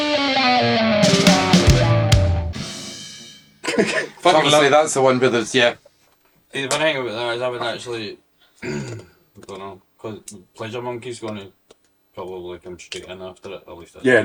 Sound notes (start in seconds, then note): 8.6 clears throat